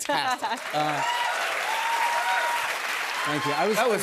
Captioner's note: cheers and applause